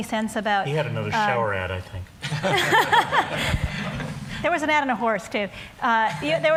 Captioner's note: laughter